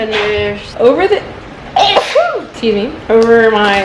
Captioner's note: sneezes